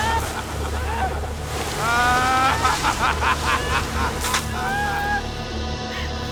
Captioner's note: men laughing; water spraying; ominous music; yelling